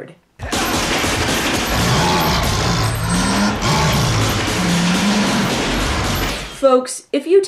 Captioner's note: gunshots